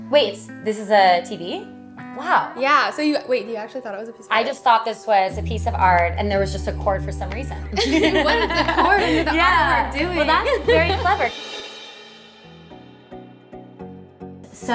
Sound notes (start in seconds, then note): 7.7 both laugh; 10.1 chuckle; 14.4 pop music